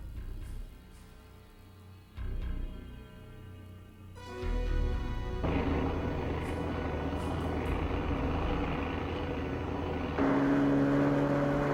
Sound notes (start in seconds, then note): 0.1 foreboding music; 6.2 plane buzzing